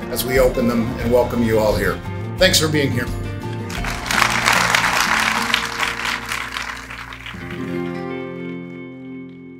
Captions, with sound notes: as we open them and welcome you all here. Thanks for being here. (applause) (soft music fades)